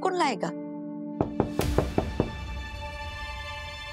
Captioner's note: knocking on the door